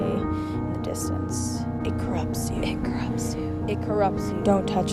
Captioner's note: whispered